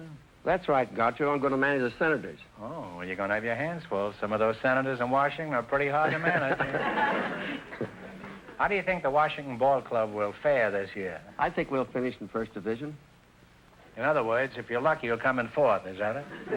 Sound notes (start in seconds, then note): 6.0 audience laughter